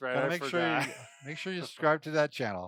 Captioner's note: laughs